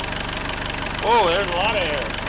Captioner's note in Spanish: Motor funcionando